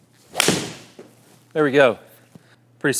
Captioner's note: golf club swings